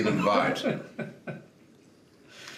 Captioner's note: laughs